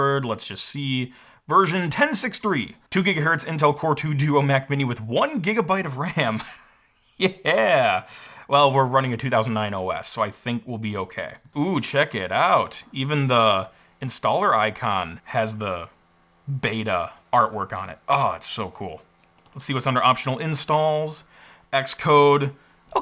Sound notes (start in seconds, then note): 6.2 chuckles